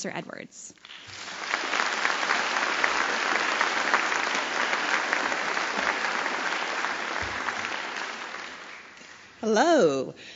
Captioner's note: applause